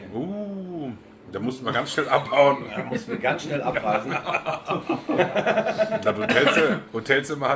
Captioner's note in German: lachen